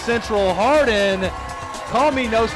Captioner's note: crowd cheering